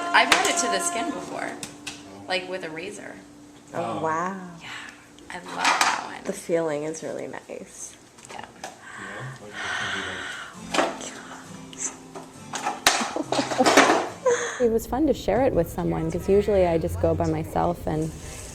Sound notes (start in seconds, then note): 8.8 sighs; 12.8 laughter